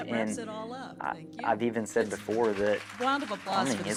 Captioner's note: applause